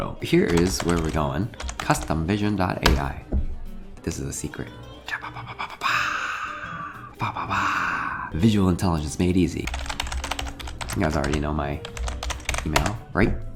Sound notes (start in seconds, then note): 4.8 vocalizes; 9.6 keys tap